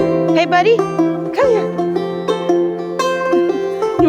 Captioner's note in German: energische Musik; Vilk bellt